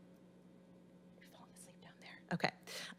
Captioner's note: whispering